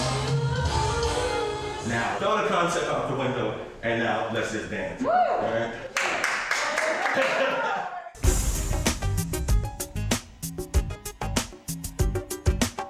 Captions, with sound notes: Now, throw the concept out the window. And now, let's just dance. (applauding) (hip-hop music)